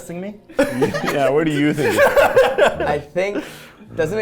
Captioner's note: people laughing; laughing